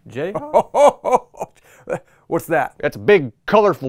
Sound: chuckling

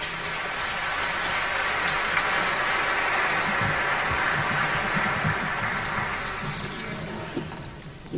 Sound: applause

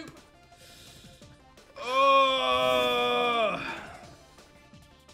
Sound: grunts

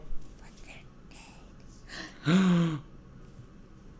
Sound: gasp

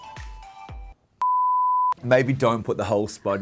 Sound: beeping

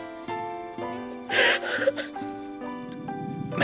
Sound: crying

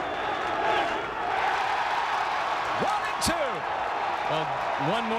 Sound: crowd cheering

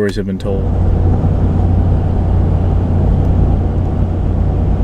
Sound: engine humming

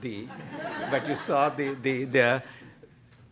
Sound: laughter

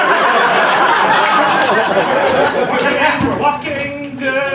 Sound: laughter

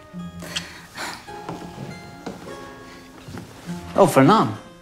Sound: sigh

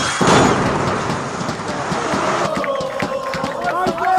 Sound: celebratory music in background; sound of explosions; celebratory cheering and singing

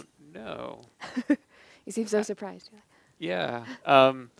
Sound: laughing

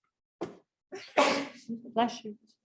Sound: sneeze

